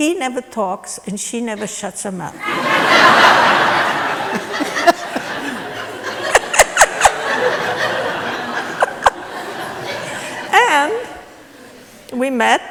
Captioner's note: laughter